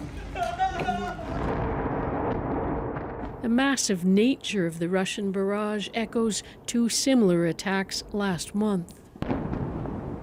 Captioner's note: crying